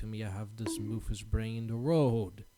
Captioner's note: boink